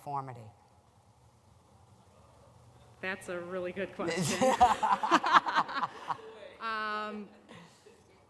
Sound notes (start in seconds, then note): 4.1 laughter